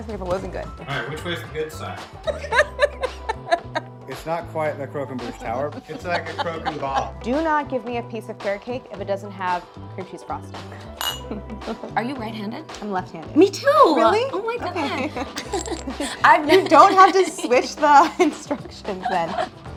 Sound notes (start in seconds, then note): 2.2 Claire laughs; 10.8 glasses clank; 10.9 Claire chuckles; 13.6 laughing